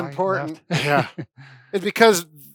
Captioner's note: laughs